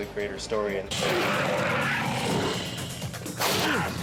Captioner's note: roar